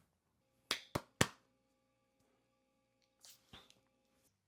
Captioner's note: claps